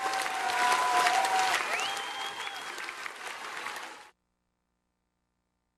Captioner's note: cheers, applause